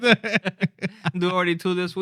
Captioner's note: laughter